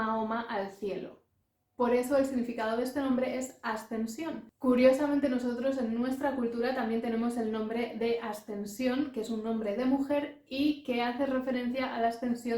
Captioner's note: in Spanish